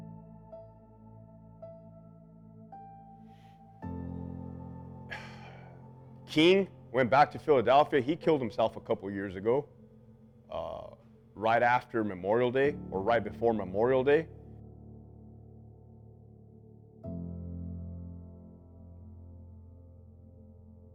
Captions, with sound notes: (somber music) (sighs) King went back to Philadelphia, he killed himself a couple years ago, right after Memorial Day or right before Memorial Day. (somber music continues)